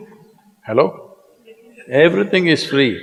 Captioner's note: laughs